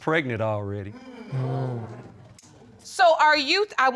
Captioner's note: audience exclaiming